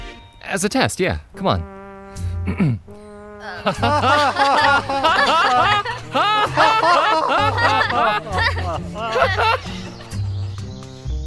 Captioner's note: forced laughter